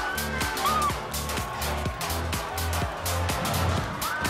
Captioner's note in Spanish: Gritos